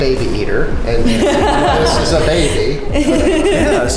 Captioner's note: laughing